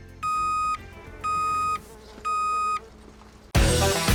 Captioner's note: truck beeps; fly buzzes